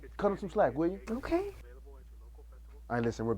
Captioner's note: commercial playing